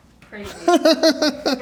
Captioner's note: laughs